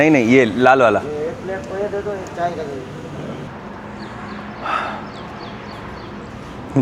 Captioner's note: crowd chatter